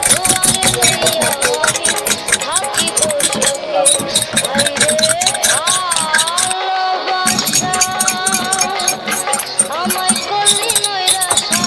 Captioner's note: tea stirring sound